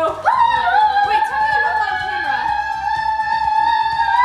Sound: screaming

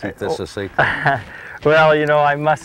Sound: deep breath

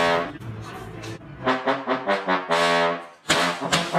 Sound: loud honk; honking again, like a trumpet

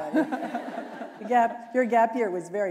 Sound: chuckle

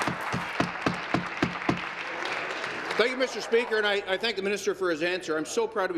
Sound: applause

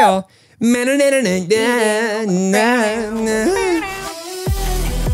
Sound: vocalize; upbeat music plays

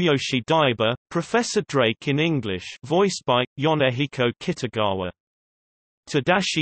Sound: Professor Drake in English

